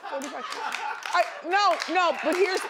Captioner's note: audience laughing and clapping